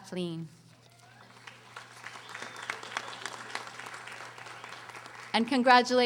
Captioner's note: audience applauding